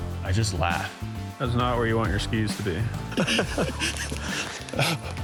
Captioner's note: laughing